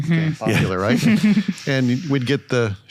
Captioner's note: chuckle